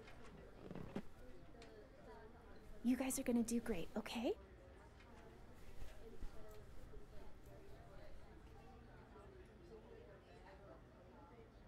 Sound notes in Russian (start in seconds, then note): none